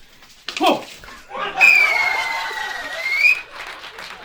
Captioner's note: whistle; applause